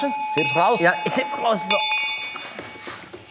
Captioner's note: Glockenläuten